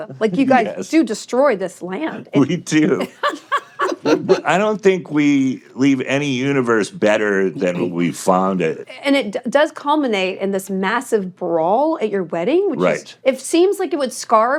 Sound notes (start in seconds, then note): 2.8 chuckles; 2.8 hosts laughing